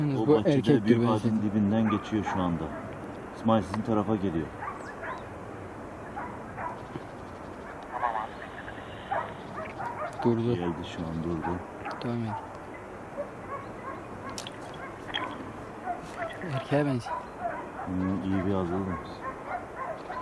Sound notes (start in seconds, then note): 7.7 radio